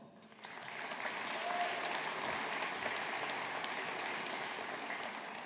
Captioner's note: audience applauding